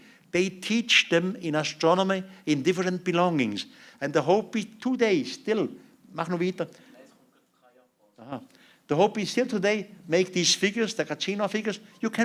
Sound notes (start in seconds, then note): 6.0 non-english speech